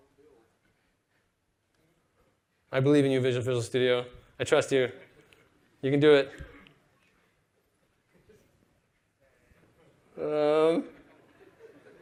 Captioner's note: laughter